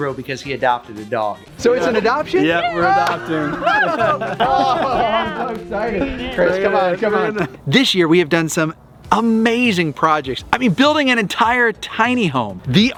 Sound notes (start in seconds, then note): 1.8 everyone laughs